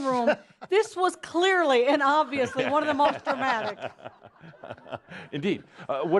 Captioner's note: laughter